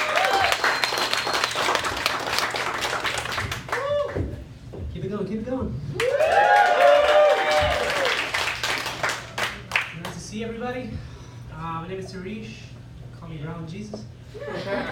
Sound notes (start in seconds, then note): 0.0 claps; 5.9 woooh; 6.0 claps